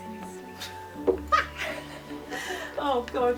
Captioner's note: blonde woman laughs